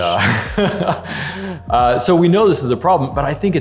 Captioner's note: laughing